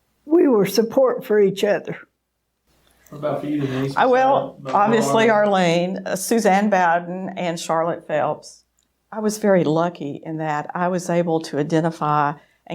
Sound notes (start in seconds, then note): 4.2 speaking faintly